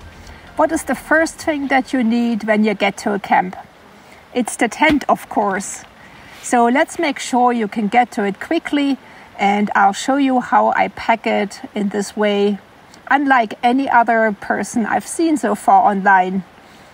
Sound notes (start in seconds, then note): none